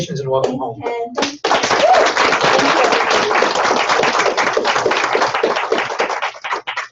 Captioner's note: applause